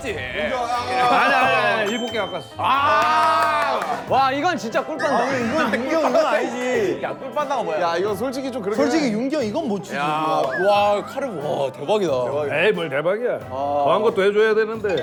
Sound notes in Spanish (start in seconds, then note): 9.0 Bromeando